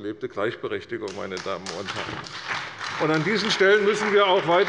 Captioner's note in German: Beifall bei der CDU und dem BÜNDNIS 90/DIE GRÜNEN